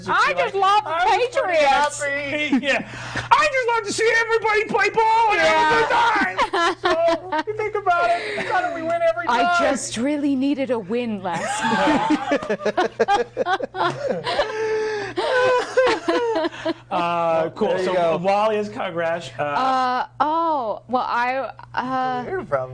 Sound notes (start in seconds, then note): 6.0 laughing; 11.3 all laughing